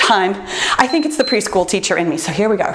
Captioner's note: timer beeps